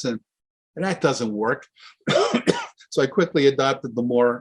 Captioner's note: coughs